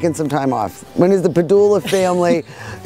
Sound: laughs

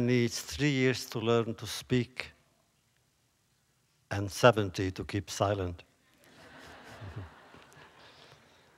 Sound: laughter

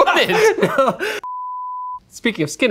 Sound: beep

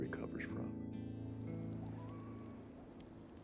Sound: coyote howling

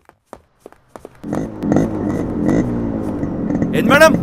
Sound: bike revving

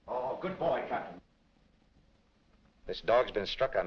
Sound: none

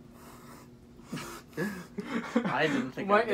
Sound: laughter

